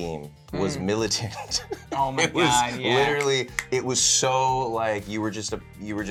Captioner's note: laughs